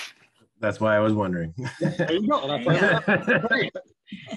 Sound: chuckles

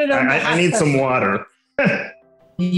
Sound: laughs

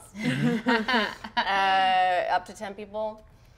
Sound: players laughing

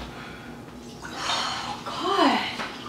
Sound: exhales

